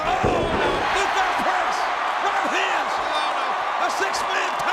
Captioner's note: audience cheers